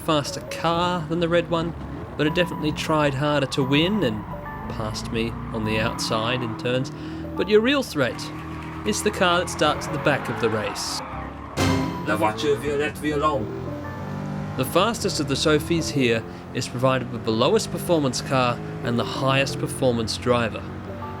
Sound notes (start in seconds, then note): 11.6 orchestra hit; 12.4 in french